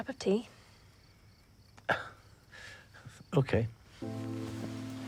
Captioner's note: Oscar chuckles